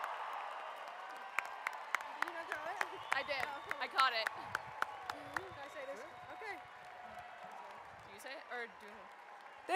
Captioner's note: cheering and applauding; applause